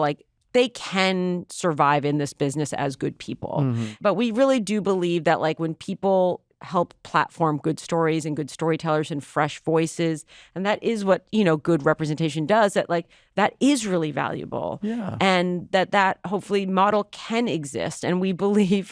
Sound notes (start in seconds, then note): none